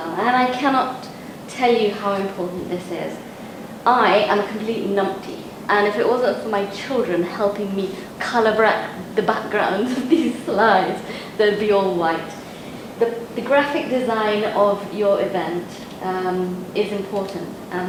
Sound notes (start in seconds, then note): 9.9 laughs